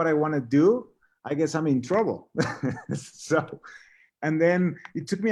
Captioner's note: laughs